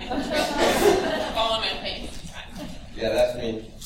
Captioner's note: laughter